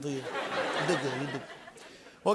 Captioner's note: laughter